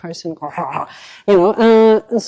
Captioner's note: vocalizing whirring